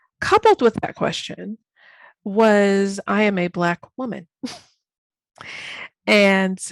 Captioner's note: chuckles